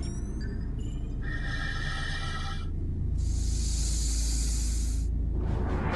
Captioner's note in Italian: respiri profondi